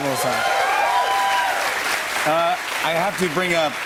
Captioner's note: cheers and applause